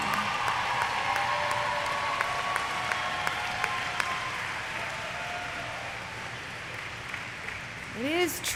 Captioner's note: applause; cheers